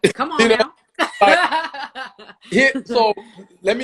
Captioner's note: laughter